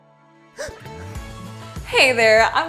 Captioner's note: gasp